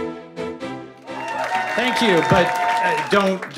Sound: applause

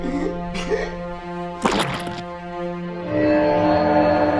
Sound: choking noises; squishing noise; dramatic music

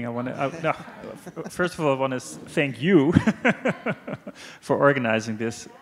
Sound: laughs

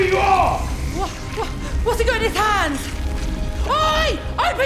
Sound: stammering

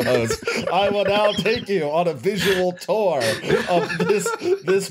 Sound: laughter

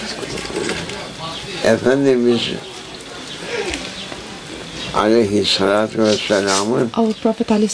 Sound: saws

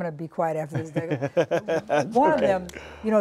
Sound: laughter

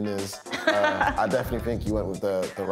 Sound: laughs

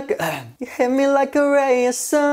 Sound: clears throat

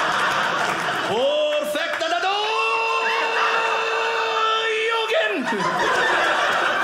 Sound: audience laughing; pretend Japanese; audience laughing

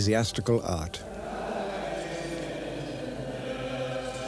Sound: chanting

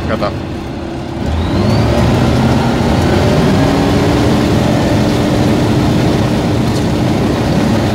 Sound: engine revs to maximum

